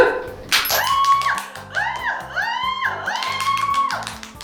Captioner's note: clap